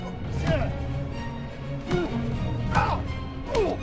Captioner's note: Acountay grunts